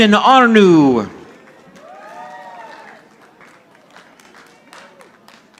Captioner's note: audience applauding